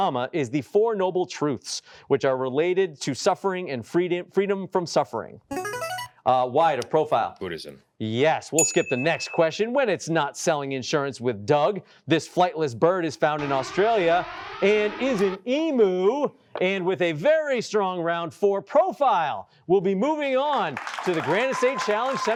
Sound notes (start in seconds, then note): 13.4 alarm blaring